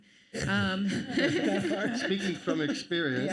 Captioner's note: all laugh